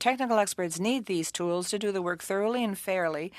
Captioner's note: speaking French